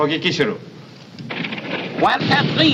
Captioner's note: speaking in german